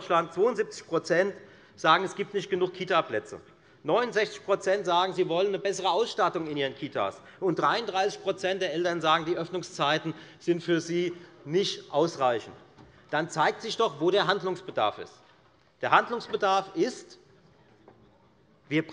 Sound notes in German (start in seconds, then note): none